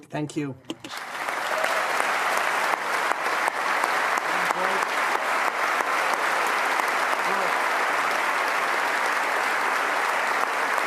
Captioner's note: applause